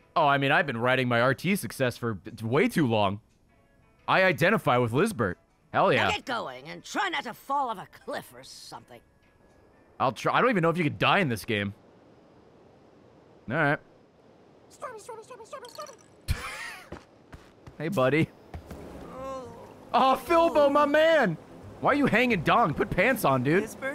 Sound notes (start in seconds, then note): 16.3 laughs